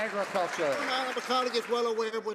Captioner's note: some Applause